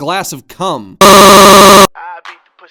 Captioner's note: Max Stutters in EARRAPE